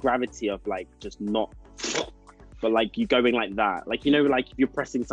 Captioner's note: falling sound